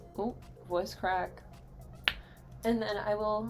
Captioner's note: tongue pop